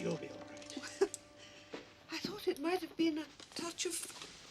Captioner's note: Tertawa